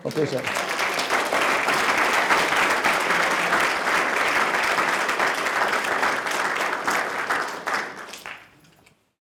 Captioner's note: applause